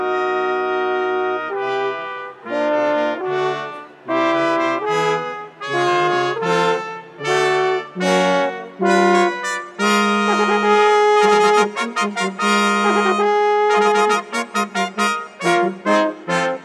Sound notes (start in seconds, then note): none